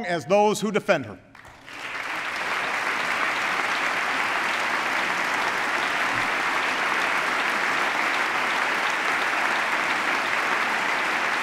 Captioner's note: applause